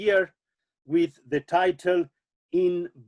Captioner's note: speaking German